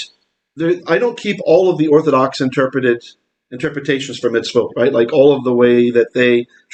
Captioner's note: Hebrew